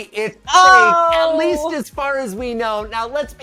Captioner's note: groans